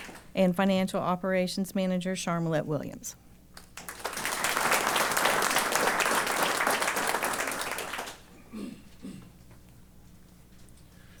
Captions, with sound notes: And financial operations manager Charmalet Williams. [APPLAUSE]